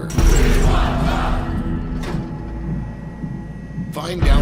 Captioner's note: crowd cheering